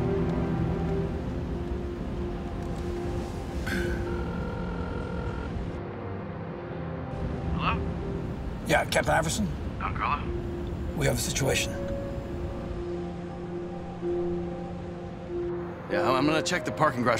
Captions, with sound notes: [phone ringing] -Hello. -Yeah, Captain Iberson... -Don Carlo? -We have a situation... -Yeah, I'm gonna check the parking garage for the car.